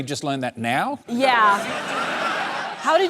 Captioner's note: laughter